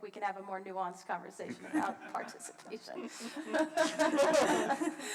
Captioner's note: laughs